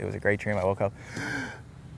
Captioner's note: breaths in